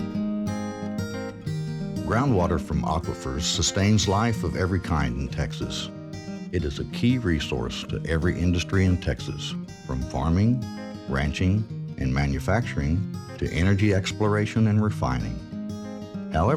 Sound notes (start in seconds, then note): 2.2 voiceover